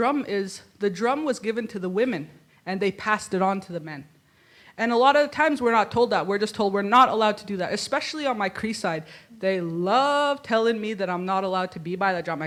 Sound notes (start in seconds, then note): none